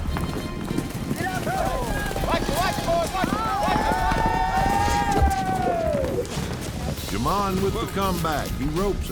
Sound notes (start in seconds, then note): 0.1 hoofbeats; 1.2 cowboys shouting